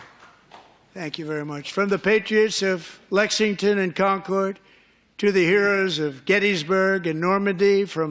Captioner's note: applause